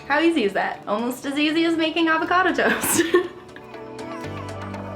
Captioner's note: laughs